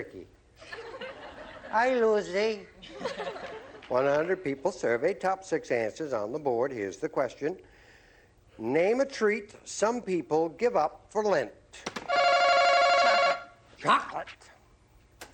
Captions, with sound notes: [laughter] Hi, Lucy. 100 people surveyed. Top six answers on the board. Here's the question. Name a treat some people give up for Lent. [ringing] - Chocolate. - Chocolate.